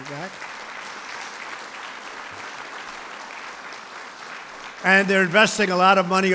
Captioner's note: applause